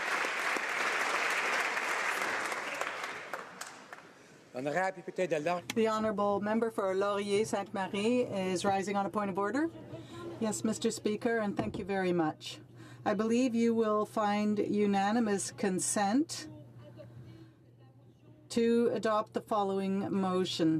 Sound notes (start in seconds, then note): 2.6 applause